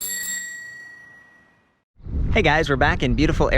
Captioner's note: bicycle bell ringing